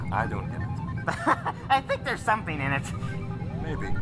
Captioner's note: laughs